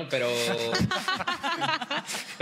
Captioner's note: laughter